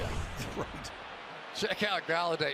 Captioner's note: laughs